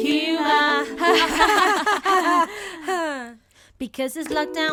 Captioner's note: all laughing awkwardly